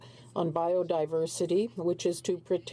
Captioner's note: speaking in French